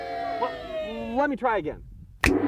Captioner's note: children booing; fingers snap; gong